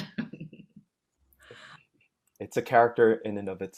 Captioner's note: laughing